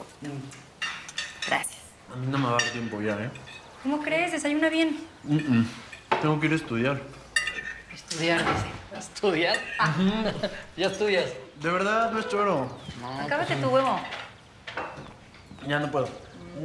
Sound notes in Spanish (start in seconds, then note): 11.4 Ríe